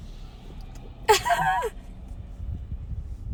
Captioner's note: chuckling